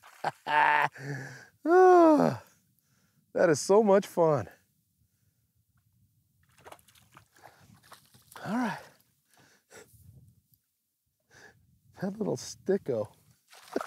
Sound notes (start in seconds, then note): 0.2 laughs, sighs; 6.5 fish splashing